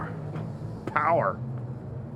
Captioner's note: scoffs